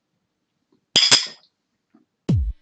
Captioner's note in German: klirrendes Geräusch